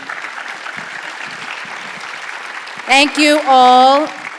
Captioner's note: audience applauding